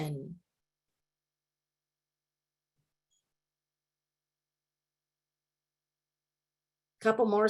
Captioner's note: silence